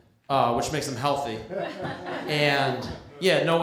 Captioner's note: laughter